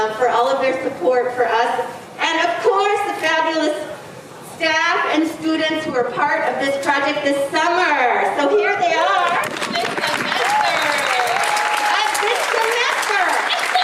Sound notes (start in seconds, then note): 9.2 audience applauding; 13.6 speaking in foreign language